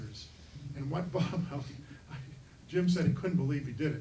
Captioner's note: chuckling